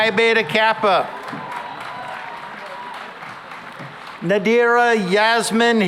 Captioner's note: cheering and applause